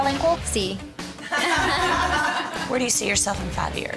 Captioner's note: laughter